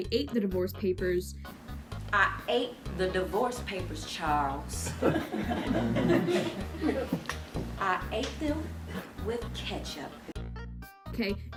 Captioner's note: laughter